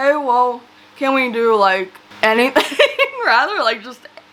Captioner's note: laughs